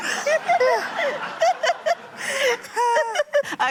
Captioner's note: laughter